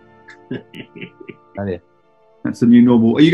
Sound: chuckling

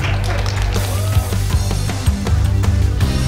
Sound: crowd applauds

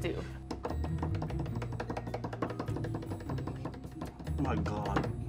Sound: hands tapping

